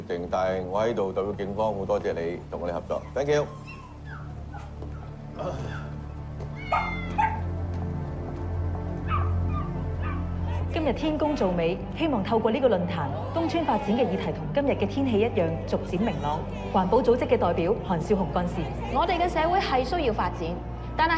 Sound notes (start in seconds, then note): 4.6 barking and meowing